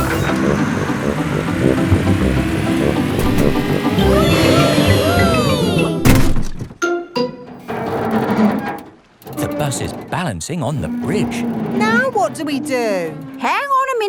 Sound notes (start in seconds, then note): 3.9 all cheering; 7.5 creaking